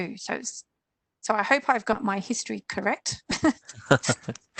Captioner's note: laughs